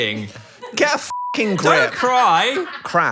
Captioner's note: beep